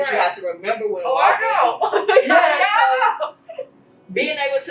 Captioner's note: chuckles